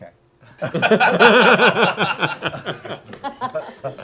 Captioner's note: laughter